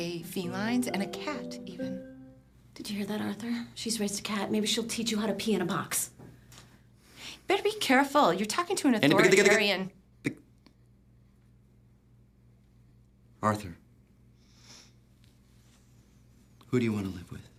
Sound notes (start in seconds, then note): 9.2 tutting